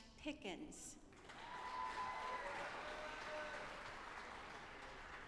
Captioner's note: audience applauding